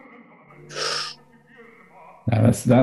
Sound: sharp intake of breath

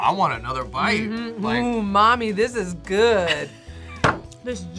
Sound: laughs

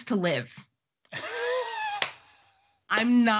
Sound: laughing

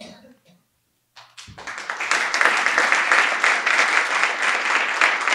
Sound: audience applauding

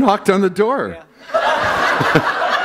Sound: laughter

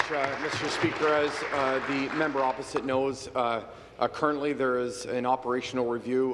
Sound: applause

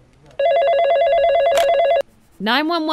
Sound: phone rings

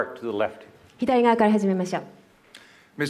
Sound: speaking japanese

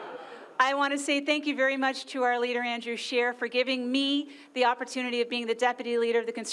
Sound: laughter

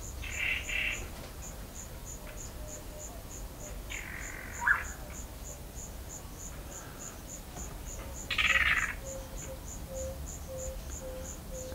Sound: bird and forest noises

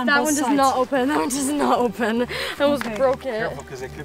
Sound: laughs

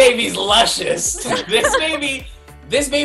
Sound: laughing

